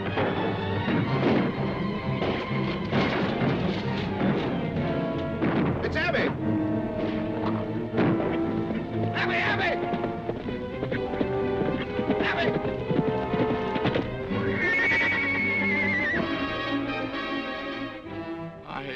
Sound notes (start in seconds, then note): 0.3 dramatic music; 2.0 guns firing; 2.8 dramatic music; 3.7 horse hooves clopping; 6.5 dramatic music; 9.9 horse hooves clopping; 13.5 horse hooves clopping; 14.2 horse neighing; 16.3 dramatic music